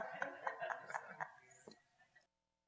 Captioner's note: all laughing